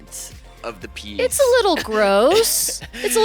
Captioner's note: laughs